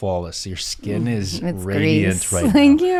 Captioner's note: chuckles